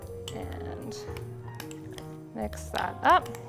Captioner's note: spoon clacking